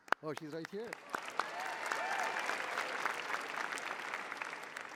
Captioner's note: cheering